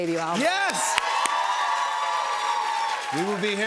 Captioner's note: cheers and applause